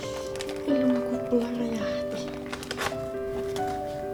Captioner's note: in Finnish